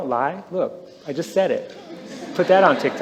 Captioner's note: laughter